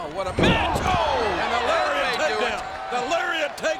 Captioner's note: audience groans